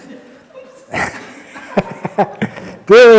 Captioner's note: laughs